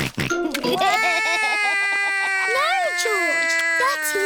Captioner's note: george laughs; cries